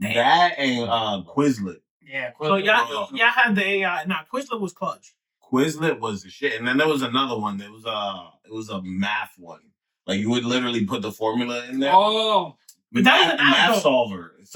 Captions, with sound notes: That and Quizlet. Yeah. (Speaking Foreign Language) Now Quizlet was clutch. Quizlet was a shit. And then there was another one. There was a math one. Like you would literally put the formula in there. Oh. Math solver.